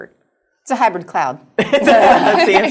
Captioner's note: laughter